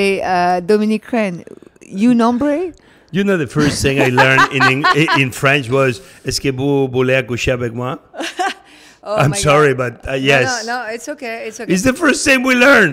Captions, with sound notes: - You know, the first thing I learned in French was (speaking in French). (chuckles) - Oh my God. - I'm sorry, but yes. - No, no, it's okay, it's okay. - It's the first thing we learned.